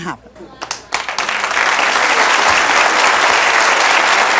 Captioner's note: audience applauds